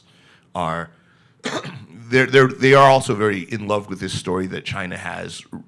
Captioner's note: coughs